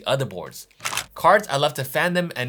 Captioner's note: camera shuttering